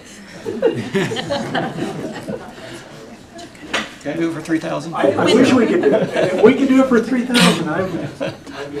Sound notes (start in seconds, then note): 0.3 laughter; 5.1 laughter